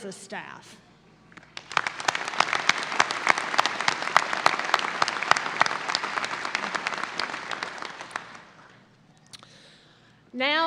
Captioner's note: audience applause